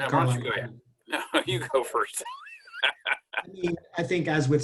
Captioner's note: laughs